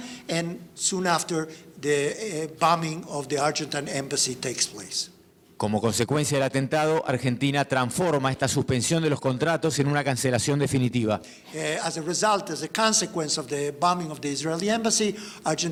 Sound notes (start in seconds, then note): 5.8 speaking in foreign language